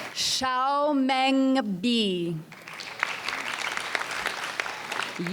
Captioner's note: audience applauds